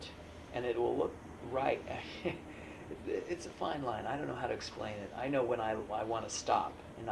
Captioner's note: laughs